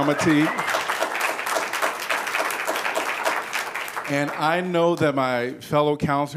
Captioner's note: applause